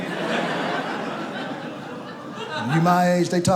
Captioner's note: audience laughs